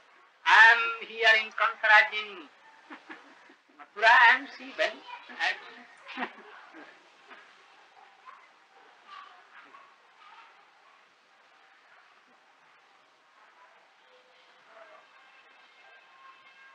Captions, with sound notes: I am here like Kamsa, as in Mathura and she went ?? *Laughter*